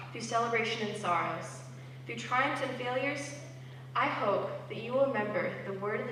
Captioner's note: none